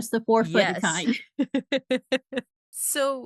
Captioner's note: laughing